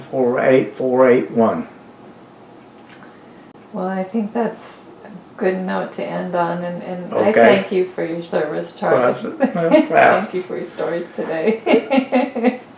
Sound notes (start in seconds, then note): 12.2 laughs